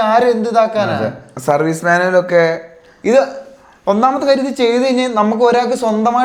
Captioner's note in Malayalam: തൊണ്ട ശരിയാക്കുന്നു